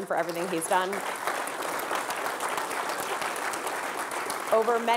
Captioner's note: audience clapping